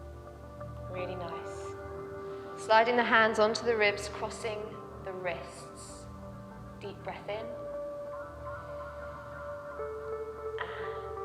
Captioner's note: inhales